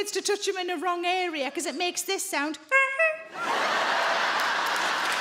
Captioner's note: Sarah mimics horn honking; crowd laughs; crowd applauds